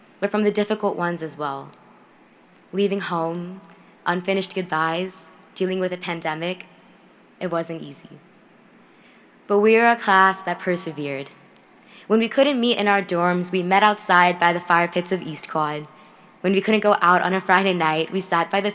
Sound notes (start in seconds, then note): none